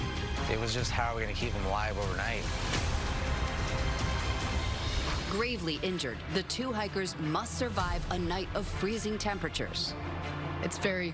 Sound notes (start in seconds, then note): none